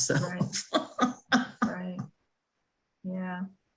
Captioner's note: laughs